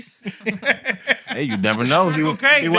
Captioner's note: laughter